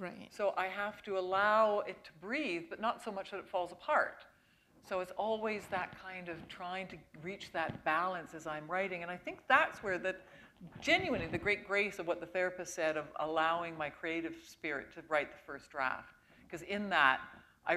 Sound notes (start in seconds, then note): none